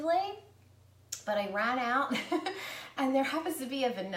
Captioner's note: laughs